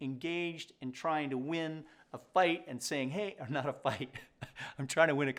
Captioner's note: chuckles